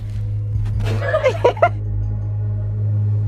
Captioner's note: laughter